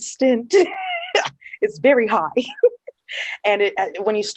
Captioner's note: laughter